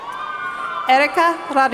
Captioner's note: cheering